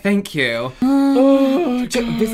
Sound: panic Mewing

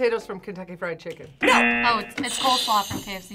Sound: buzzer

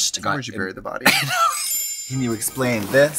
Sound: Katya laughs

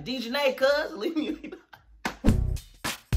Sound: laughs; upbeat music

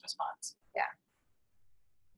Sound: voiceover

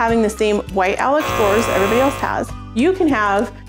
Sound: buzzing

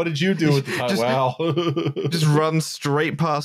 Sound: chuckles

